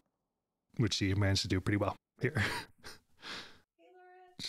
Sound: chuckles

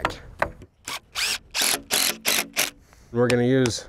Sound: drill motor spins in bursts

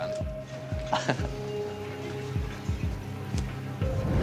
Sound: laughing

